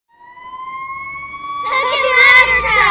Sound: truck sounds

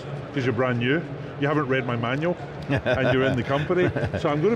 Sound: laughs

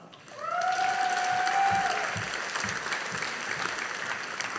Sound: audience applauding

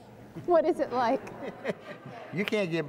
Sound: laughter

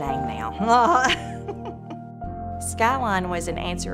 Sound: laughs

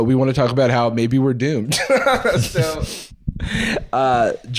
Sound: laughs

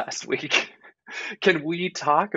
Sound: giggling

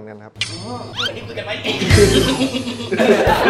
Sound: laughs

